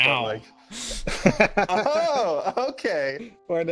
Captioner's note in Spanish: Se ríen